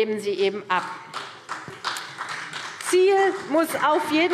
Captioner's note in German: Beifall CDU